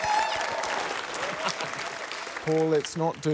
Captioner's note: cheering, applause